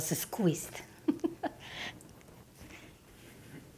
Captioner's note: laughs